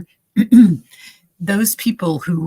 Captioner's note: clearing throat